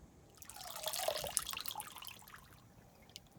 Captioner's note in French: bruits d'eau